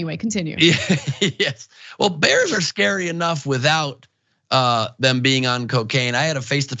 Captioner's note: laugh